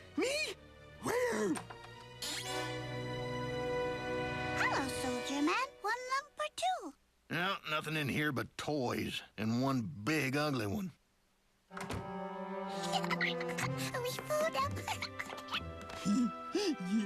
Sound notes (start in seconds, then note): 12.8 giggles; 15.9 giggles